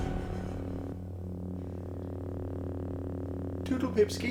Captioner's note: dramatic music; lightsaber humming